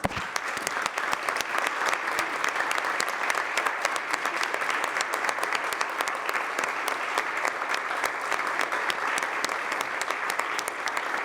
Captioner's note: applause